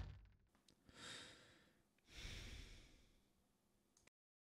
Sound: joey sighs

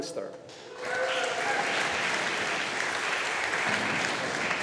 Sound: audience applauding

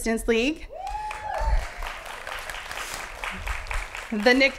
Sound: applause

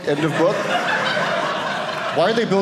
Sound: audience laughing

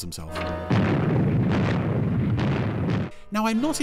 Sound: bombs exploding

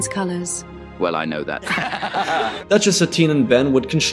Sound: laugh

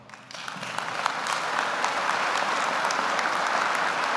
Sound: audience applauding

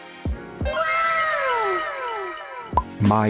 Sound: かわいい wow sfx

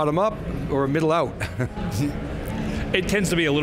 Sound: laughs

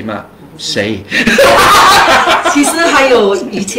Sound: laughter

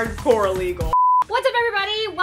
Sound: beep

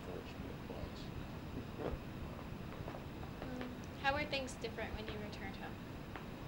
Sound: laughs

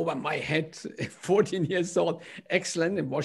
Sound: laughter

